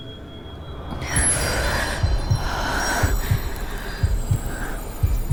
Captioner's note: Liu Huisheng’s breathing halts as the smoke spreads into the air